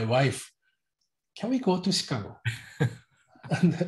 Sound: laughs

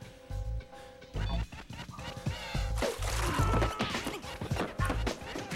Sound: yelling; beeping

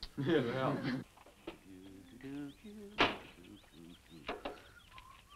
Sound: group chuckles; Harris humming; Harris whistling

